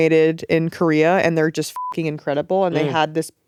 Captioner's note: beep